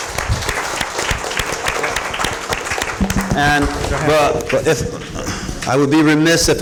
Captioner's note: applause